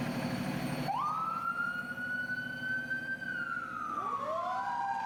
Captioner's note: sirens wailing